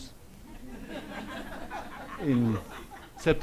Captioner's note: audience laughs